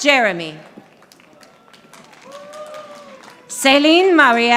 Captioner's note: audience applauding